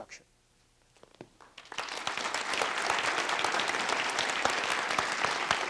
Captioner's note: applause